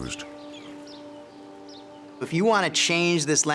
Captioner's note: birds chirping